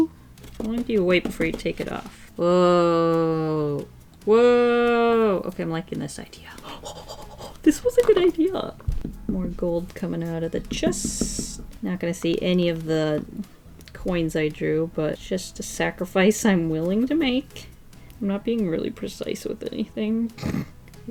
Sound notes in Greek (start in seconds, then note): 6.5 Γρήγορη αναπνοή από ανυπομονησία; 19.9 γέλιο από τη μύτη